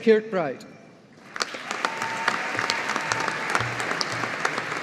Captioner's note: audience applauding